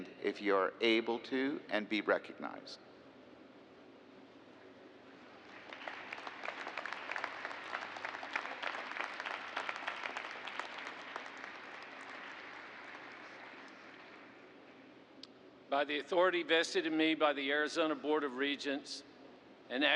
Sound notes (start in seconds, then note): 2.5 applause